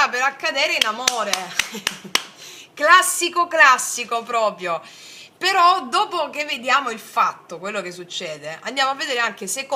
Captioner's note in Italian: applauso